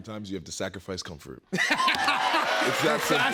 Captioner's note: laughter